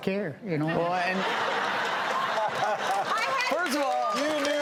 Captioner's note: audience laughs